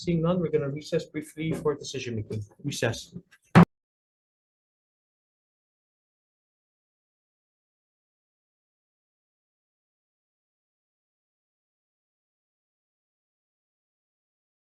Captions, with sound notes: Okay, seeing none, we're gonna recess briefly for decision making. Recess. (gavel thudding)